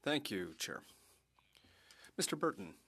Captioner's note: speaking French